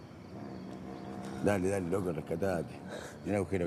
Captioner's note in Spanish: Turca ríe